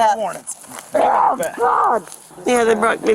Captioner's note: screaming